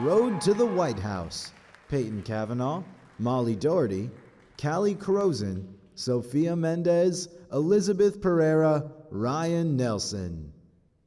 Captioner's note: applause